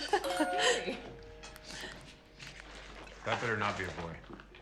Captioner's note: laughing